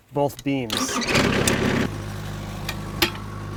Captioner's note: skid-steer cranking; skid-steer idling